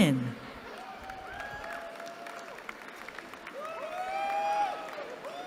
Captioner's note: cheering